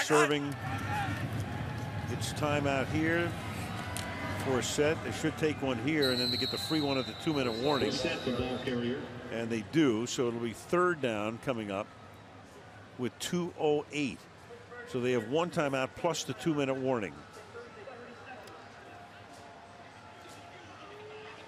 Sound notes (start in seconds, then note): 8.7 whistles